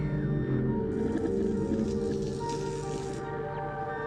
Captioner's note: electric zapping